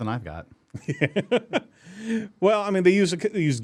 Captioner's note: host laughs